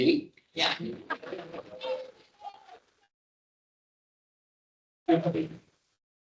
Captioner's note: audience laughs and claps